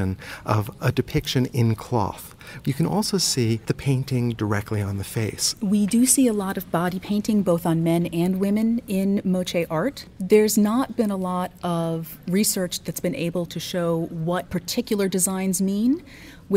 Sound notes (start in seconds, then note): 5.7 voiceover